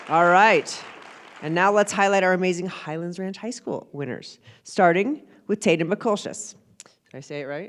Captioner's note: applause